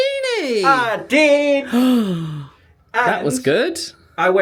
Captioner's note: gasps